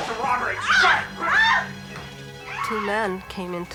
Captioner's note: scream; grunting, screaming